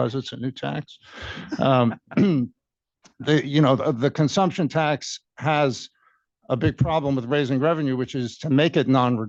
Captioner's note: laughter